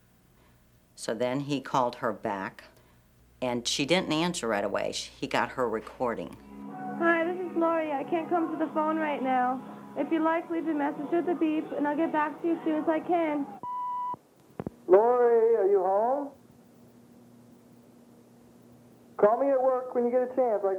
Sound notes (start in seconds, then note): 6.2 on answering machine; 14.5 on answering machine